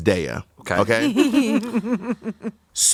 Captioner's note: everyone laughs